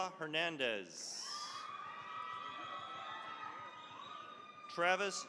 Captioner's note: cheering, applause